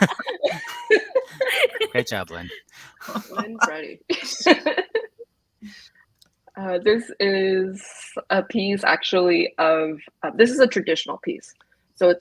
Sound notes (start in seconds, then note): 0.0 everyone laughs; 4.5 laughs